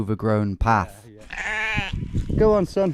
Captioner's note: sheep bleats